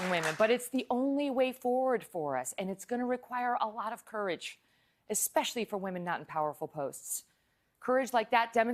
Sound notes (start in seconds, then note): 0.0 applause